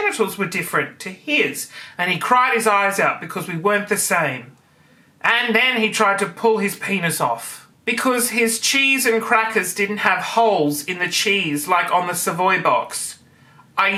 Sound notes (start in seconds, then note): none